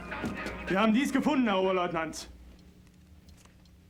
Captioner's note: speaking german